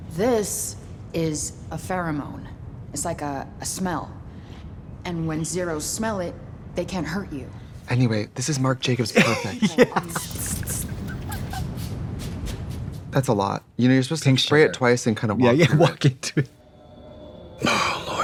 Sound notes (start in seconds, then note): 9.0 laughing; 10.1 imitates perfume spritzing; 16.5 tense music